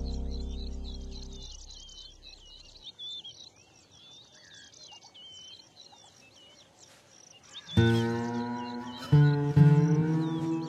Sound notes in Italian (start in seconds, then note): 1.1 cinguettii; 7.8 musica strumentale